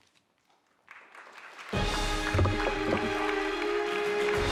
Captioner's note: audience applauding